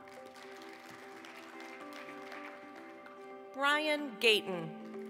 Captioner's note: applause